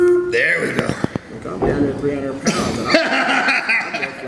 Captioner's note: laughs